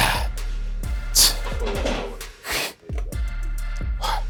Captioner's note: Jay breathing deeply